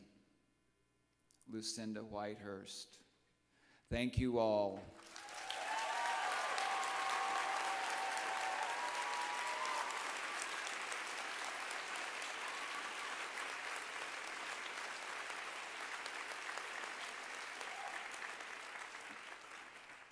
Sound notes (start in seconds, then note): 4.9 applause